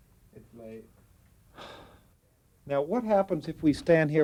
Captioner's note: sighs